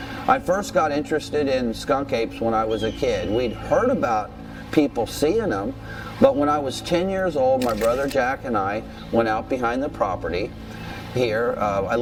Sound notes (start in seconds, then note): none